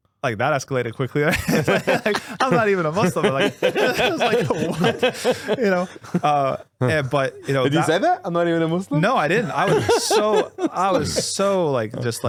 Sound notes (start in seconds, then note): 1.9 laughing